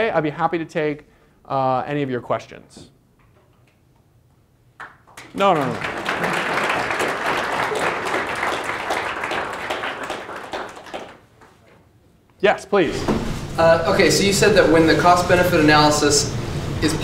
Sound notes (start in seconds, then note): 4.8 applause